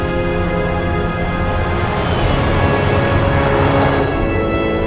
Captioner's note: spaceship revving